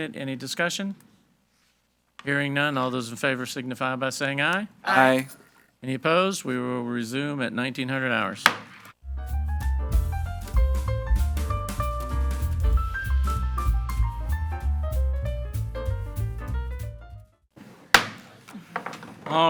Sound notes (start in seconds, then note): 8.4 gavel thuds; 9.2 gentle upbeat music; 17.8 gavel thuds